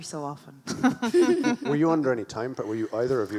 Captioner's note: laughs; chuckles